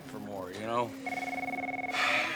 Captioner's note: phone rings; sighs